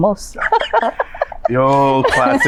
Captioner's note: both laugh